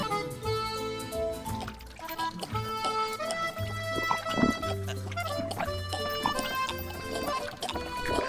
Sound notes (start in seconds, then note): 1.4 fake blood sloshing; 5.1 zombie vish gagging